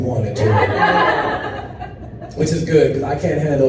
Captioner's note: audience laughs